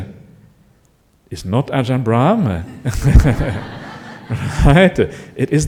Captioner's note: laughter